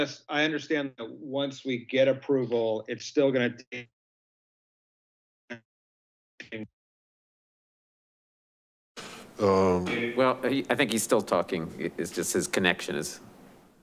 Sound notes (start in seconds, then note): 4.1 audio cuts out